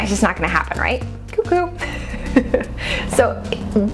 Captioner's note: laughs